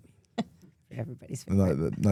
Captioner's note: laughs